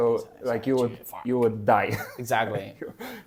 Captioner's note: laughs